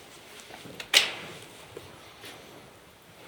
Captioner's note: chair creaks